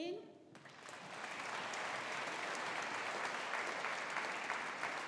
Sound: audience applauding

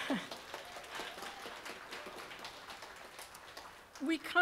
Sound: applause

